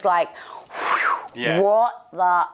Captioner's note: whooshing